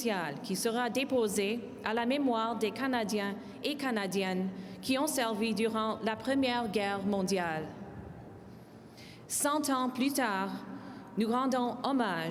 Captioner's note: speaking in french